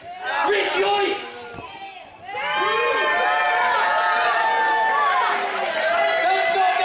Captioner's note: crowd